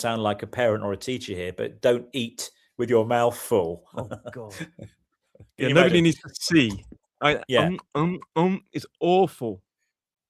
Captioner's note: laughter